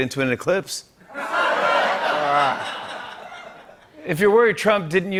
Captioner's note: laughter